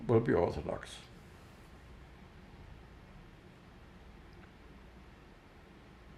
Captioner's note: pauses 11 seconds